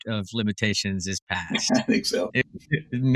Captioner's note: laugh